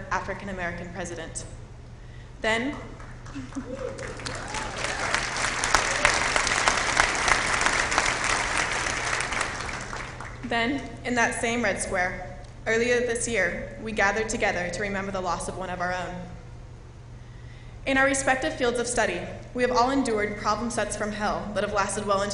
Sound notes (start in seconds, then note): 2.7 applause